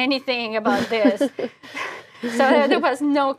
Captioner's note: laugh